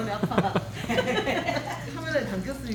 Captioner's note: laughs